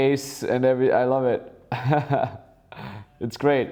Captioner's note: laughs